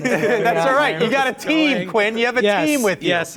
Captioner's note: everyone laughing